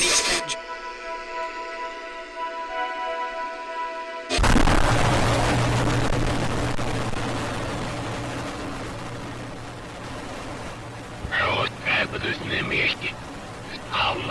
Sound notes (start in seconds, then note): 2.1 static and Faint music; 4.3 louder more distorted Static